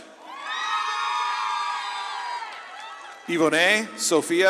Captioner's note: audience claps and cheers